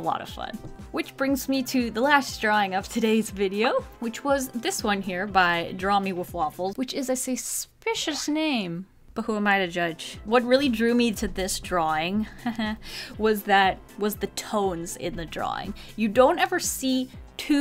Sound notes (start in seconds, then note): 12.2 pun laugh